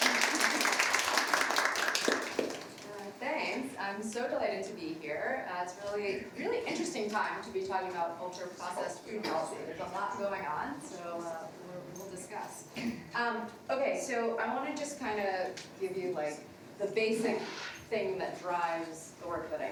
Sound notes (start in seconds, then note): 3.2 everybody applauds